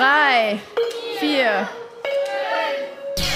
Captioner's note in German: Lauter Ton